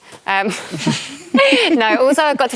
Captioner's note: laughter